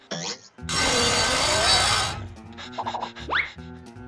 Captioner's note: buzz saw grinding; panting